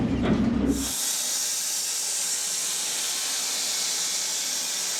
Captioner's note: saw whirring